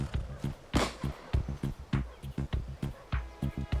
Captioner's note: rifle fires; dramatic music